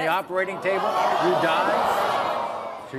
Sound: audience gasps

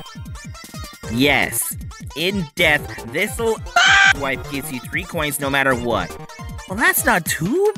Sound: aaahhh

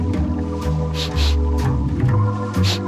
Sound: sniffing

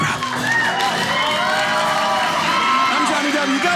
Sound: audience cheering

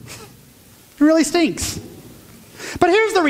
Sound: chuckles

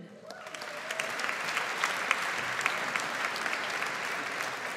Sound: audience applauds

